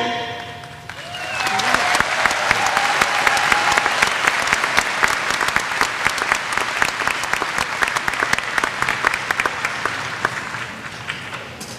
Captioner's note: applause